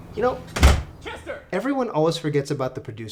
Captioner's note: door slams